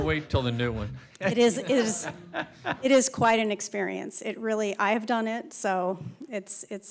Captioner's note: laughter